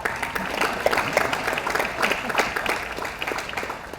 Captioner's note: audience applauds